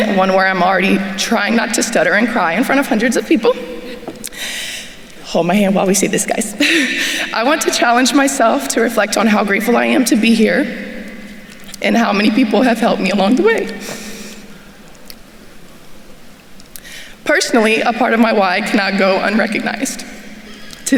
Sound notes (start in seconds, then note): 6.6 chuckles